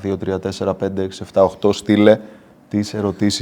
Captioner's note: in Greek